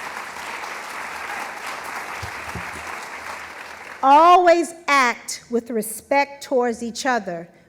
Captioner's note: applause